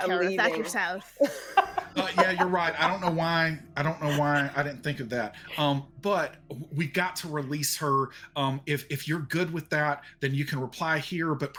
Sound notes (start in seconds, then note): 0.0 people laughing